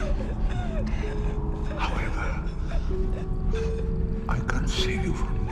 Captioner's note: crying